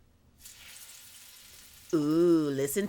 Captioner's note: sizzle